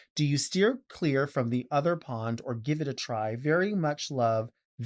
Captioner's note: none